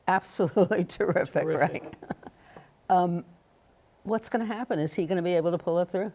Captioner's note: chuckles